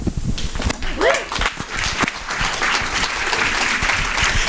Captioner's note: audience applauding